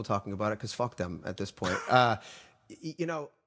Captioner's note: laughing